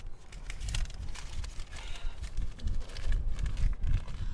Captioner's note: cash crinkles